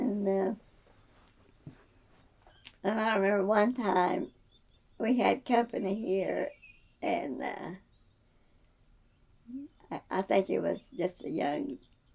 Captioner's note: laughs